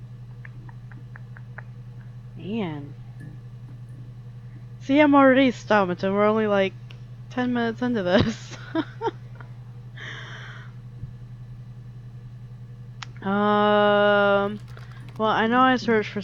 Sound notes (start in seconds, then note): 0.4 thinking noises; 9.9 laughs